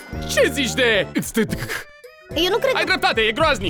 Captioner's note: stammers phonetic sounds